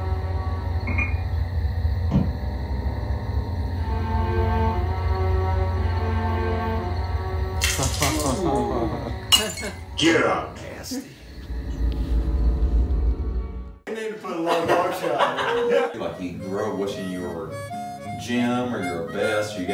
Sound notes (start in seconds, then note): 0.8 whiskey bottle sounds; 3.6 suspensful music; 7.8 audience chuckling; 14.3 laughter